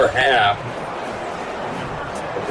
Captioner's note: crowd Noises